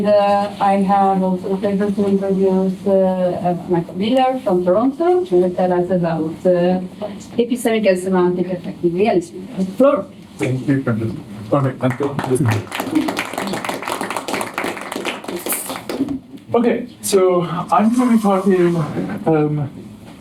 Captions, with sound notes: the last one of our meeting. And I have also the pleasure to introduce Michael Villar from Toronto to tell us about the episode on the effect of reality. Flor. Thank you, Frances. All right. Michael. [APPLAUSE]